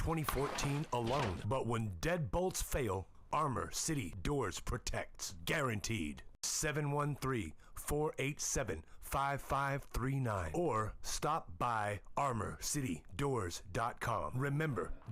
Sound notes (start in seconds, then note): none